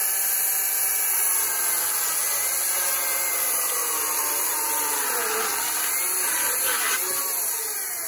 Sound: electric chainsaw sound

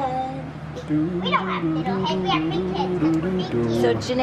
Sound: imitates guitar

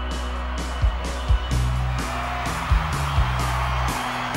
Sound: drums; cheering

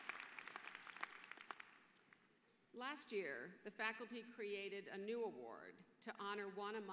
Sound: applause

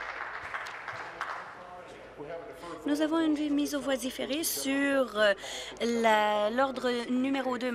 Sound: applause

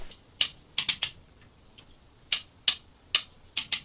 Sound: metal clicking

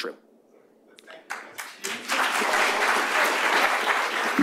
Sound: applause

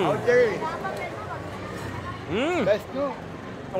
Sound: speaking foreign language

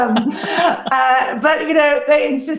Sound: laughs

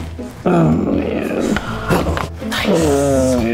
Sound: bones crack

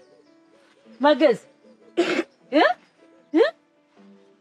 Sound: Musisi coughs

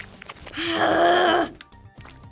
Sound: frustrated grunt

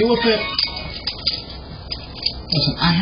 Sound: Lyft sound plays on phone

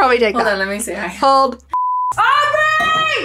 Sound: beep

